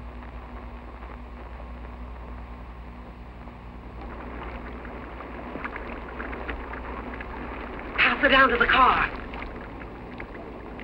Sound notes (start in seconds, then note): none